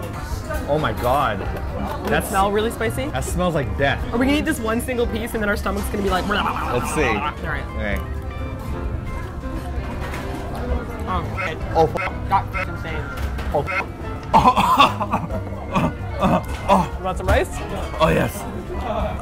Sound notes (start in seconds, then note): 14.3 coughs; 16.2 coughs more